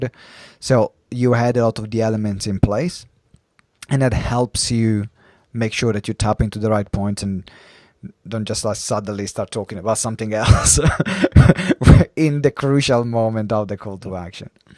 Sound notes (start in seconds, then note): 10.5 laughs